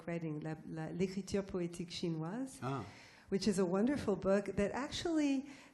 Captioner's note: mandarin